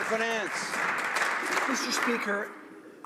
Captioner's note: some Applause